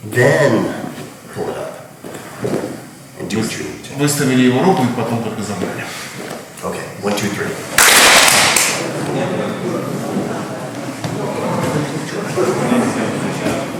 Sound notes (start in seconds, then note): 4.5 speaking in a foreign language; 7.7 clap